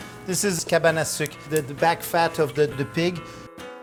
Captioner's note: speaking in French